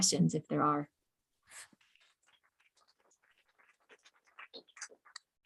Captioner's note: applause